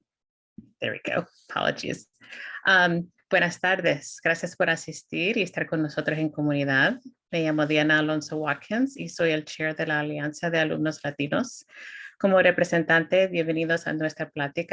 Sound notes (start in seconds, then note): 3.2 speaking spanish